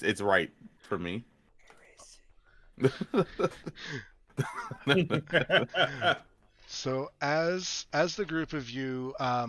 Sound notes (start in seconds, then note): 2.4 whispering; 4.3 laughs; 4.3 laughter